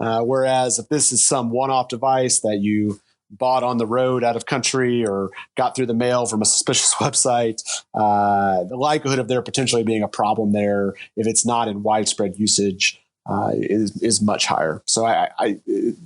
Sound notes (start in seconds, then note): 8.2 laughing